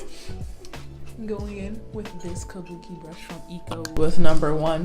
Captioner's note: off screen laughter